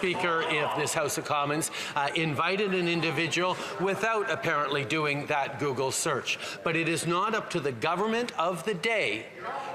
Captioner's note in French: voix de l'interprète